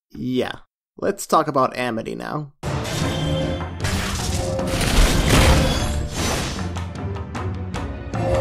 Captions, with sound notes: - Yeah. Let's talk about Amity now. [magical whooshing]